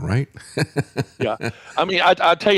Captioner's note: laughs